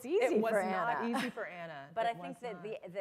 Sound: laughter

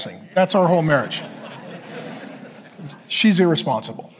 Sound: congregation laughing

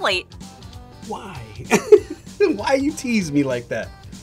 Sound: laughs

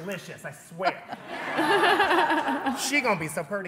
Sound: laughing

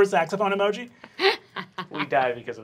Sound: laughing

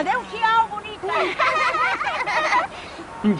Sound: the triplets laugh

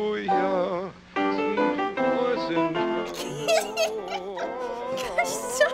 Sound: laughs

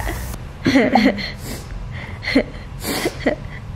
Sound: laughs

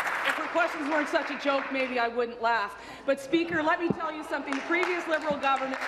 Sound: applause

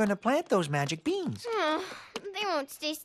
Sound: frustrated sigh

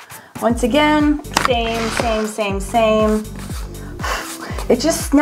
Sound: blows; blows

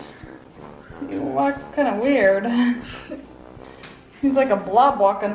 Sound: laughs; both laugh

